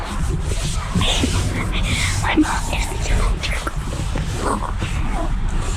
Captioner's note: whispering